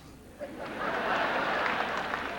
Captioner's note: sarcastically; audience chuckles